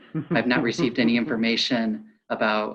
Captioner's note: laughs